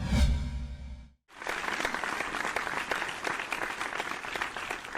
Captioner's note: audience applauding